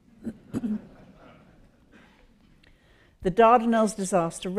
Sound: audience laughs

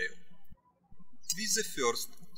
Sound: birds chirping

